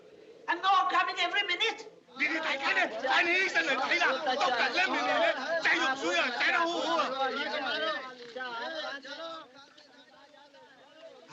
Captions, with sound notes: And more coming every minute. [ Crowd Shouting, Chattering ]